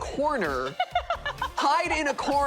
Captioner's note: laughing